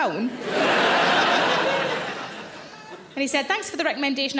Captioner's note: audience laughs